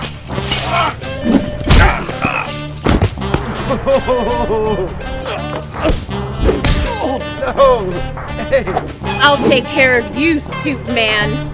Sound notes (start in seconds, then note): 3.6 chuckling; 8.2 laughing